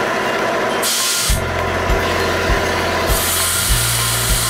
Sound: air blowing

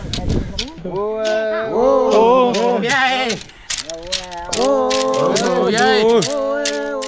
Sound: continue to cheer for victory

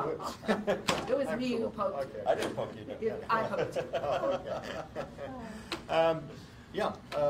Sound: laughter; laughter

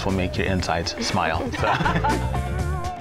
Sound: laughter

